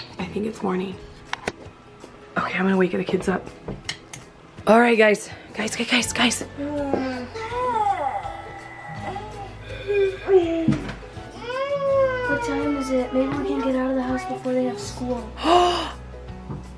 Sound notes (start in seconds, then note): 6.6 moaning and yawning; 15.4 gasps